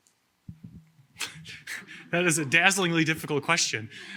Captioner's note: chuckles